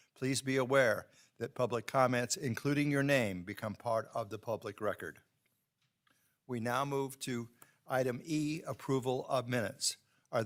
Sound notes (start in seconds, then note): none